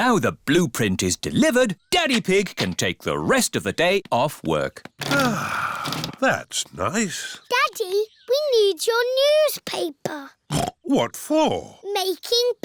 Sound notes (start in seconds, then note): 5.0 sighs; 10.7 snorts